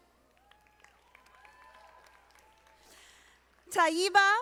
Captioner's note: audience applauding